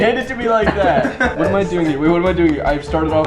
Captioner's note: chuckles